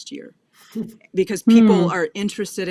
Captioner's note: laughs